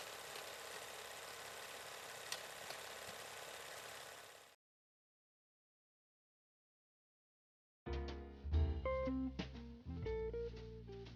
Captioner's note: film reel spinning